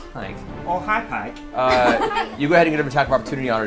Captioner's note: Tommy Wiseau voice; all laugh